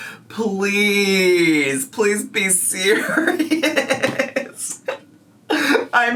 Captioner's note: laughs